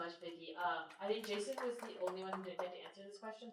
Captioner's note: applause